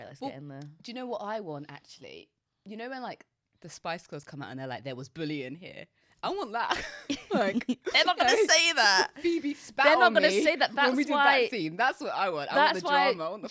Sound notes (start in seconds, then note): 6.7 both laughing